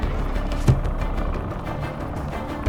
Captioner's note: door thuds open